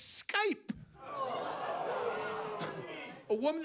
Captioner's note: gemidos de la audiencia